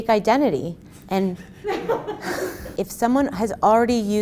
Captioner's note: audience laughing